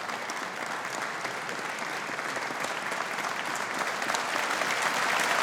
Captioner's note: audience applauding